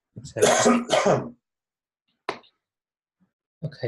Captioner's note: coughing